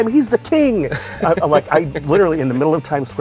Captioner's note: laughing